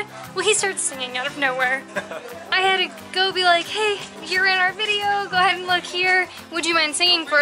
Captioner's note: laughter